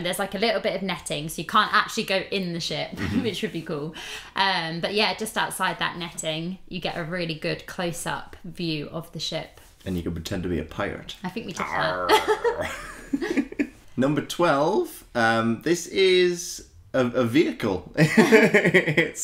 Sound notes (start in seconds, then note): 12.0 pirate Impression; 18.1 giggles